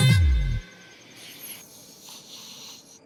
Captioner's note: loud snore; alarm ringing